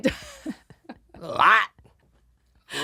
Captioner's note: laughing